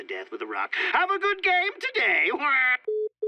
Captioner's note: chuckles